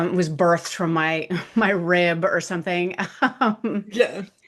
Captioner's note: laughs